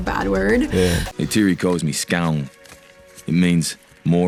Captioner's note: speaking na'vi